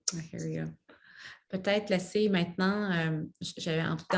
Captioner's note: speaks French